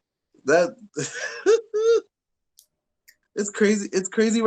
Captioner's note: laughs